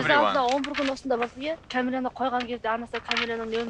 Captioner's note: woman speaks in Mongolian